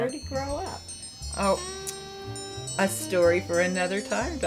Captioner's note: chimes